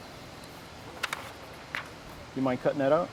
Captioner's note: rustling